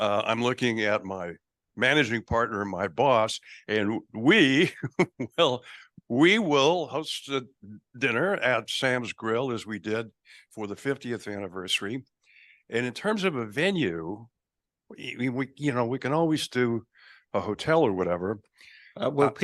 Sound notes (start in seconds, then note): 4.4 laughs